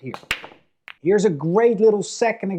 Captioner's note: ball clacks